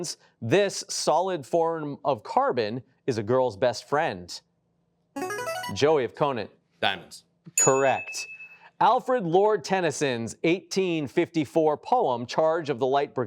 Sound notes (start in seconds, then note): 5.2 buzzer chimes